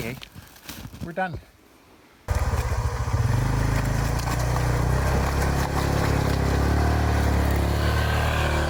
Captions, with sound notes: Anyway, we're done. (engine rumbling)